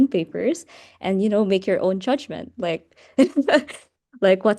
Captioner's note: laughs